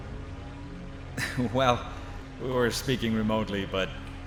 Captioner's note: laughing